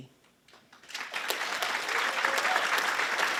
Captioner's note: applause